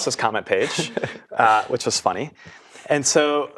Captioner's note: laugh